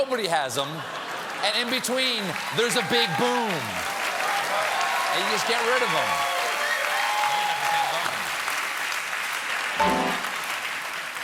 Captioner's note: cheers and applause